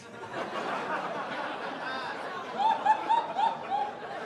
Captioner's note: audience laughs